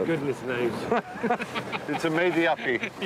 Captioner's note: both laughing